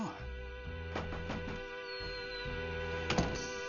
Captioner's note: door knocks